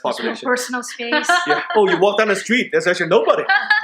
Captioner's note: laughing